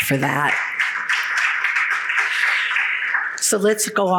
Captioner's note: audience applauds